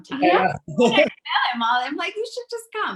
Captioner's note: laughs